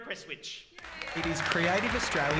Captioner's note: applause